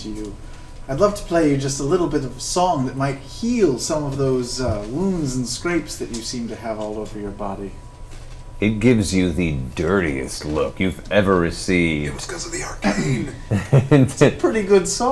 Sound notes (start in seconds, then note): 12.7 whispers